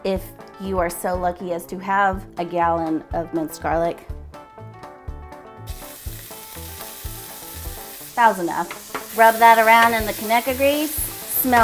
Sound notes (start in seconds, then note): 5.6 garlic sizzling